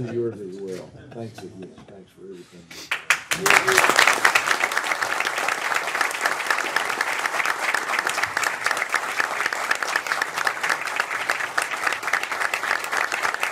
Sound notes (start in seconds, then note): 3.5 laughter; 6.6 applause